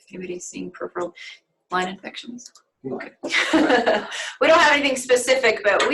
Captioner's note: laughter